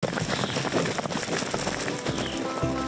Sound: hoofs patter; air rumbles; upbeat banjo music

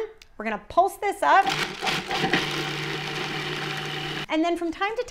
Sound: processor whirring

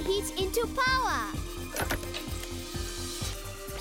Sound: clicking; buzzing

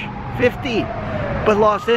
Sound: police siren

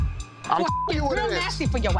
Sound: beep

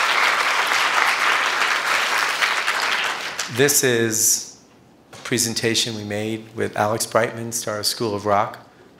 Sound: applause

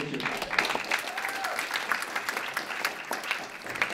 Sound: applause

